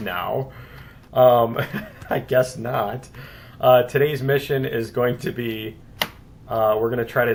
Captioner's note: laughs; keystroke